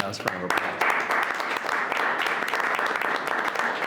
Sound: applause

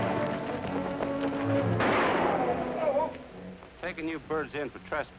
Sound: gun shot

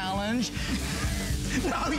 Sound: laughter

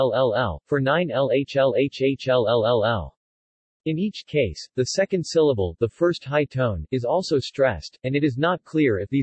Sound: the first high tone

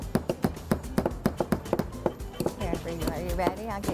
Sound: hammering

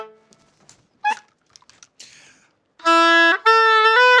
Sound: squeak

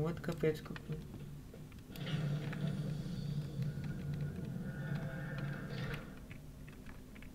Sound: loud door opening

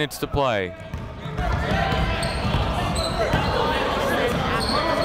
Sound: chatter

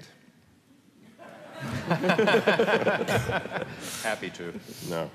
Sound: laughter

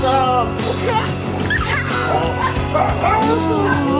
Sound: giggling

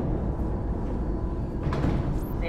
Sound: door opening

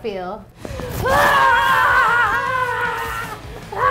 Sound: screaming

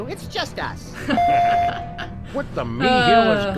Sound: laugh

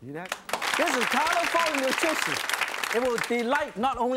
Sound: audience clapping drowns other sounds

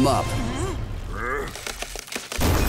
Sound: cracking

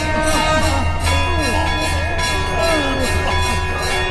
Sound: clanging

